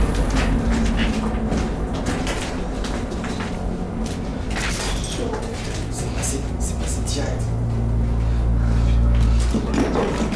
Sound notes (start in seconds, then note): 6.1 speaks French